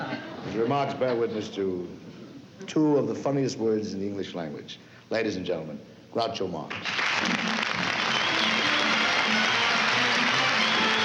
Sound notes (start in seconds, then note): 6.7 applause; 7.8 fanfare playing